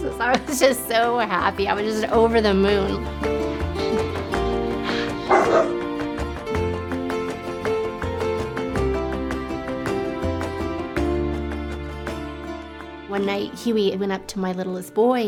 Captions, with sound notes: I was just so happy. I was just over the moon. (barking) (upbeat music) One night, Huey went up to my littlest boy